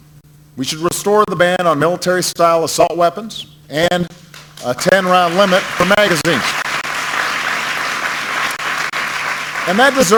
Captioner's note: applause